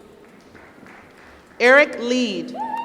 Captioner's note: applause